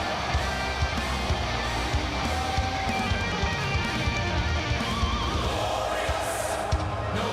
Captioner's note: cheers and applause